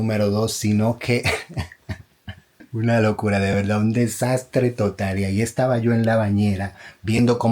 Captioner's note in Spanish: risas